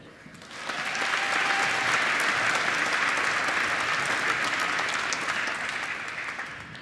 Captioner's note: applause